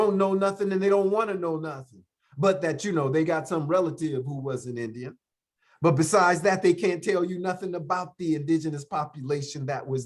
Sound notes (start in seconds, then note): none